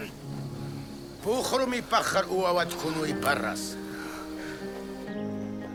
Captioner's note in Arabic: الصوت المنطوق البدوي